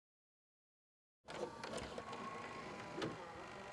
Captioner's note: VCR whirring